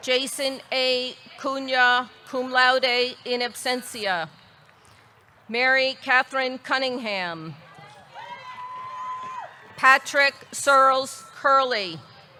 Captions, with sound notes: Jason A. Cunha, cum laude in absentia. Mary Katherine Cunningham. (audience cheering) Patrick Searles Curley.